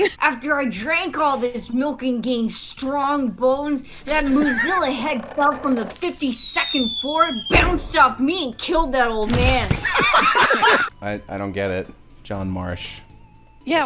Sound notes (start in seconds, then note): 9.8 laughter